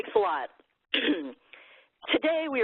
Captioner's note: coughs